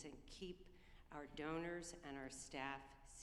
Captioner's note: none